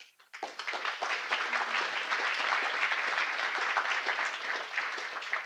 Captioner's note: applause